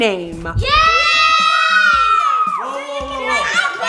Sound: cheering

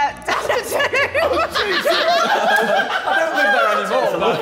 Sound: all laughing

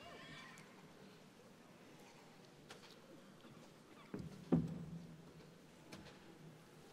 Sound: none

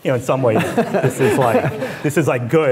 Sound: laughing

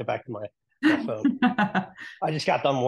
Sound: laughing

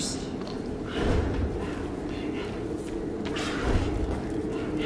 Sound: disembodied voice whispering

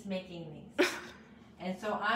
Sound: chuckles

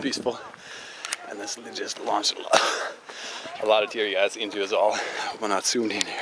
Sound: coff

